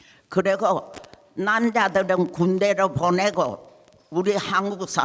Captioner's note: speaking in foreign language